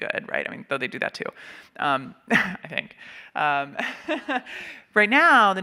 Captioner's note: laughing